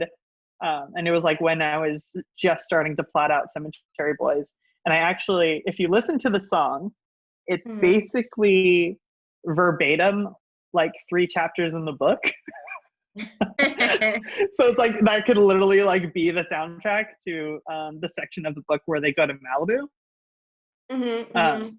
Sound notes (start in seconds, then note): 13.2 laughs